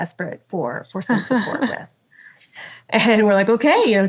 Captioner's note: laughs